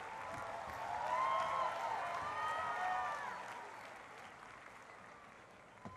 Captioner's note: cheering and applause